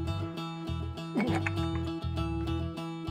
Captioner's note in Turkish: Kusacakmış gibi ses çıkarır